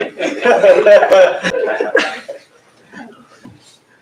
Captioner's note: laughter